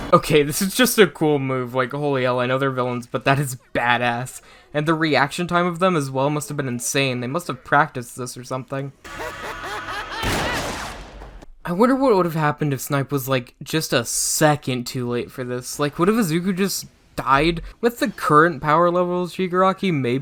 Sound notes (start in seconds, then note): 9.0 Shigaraki laughing; 10.1 gunshot